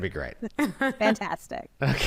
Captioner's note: laughs